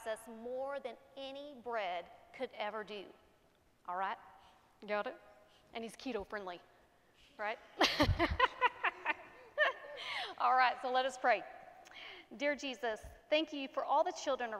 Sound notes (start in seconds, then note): 7.8 laughs; 7.9 congregation laughing